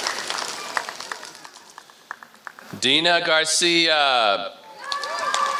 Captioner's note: applause